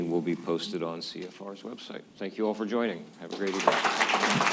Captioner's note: applause